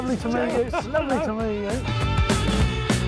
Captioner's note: laughing; upbeat music